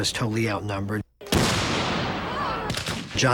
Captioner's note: cannon Explodes